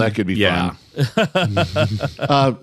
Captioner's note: laughing